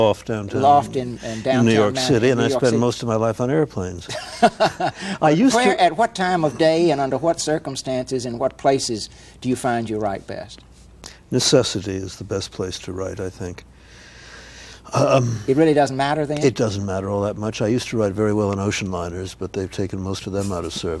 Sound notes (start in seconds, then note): 4.0 Ed laughs